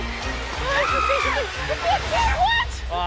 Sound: screams

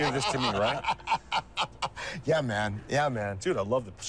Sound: laughter

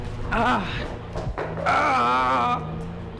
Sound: groans

